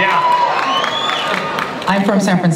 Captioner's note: audience cheering